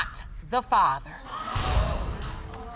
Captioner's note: audience exclaiming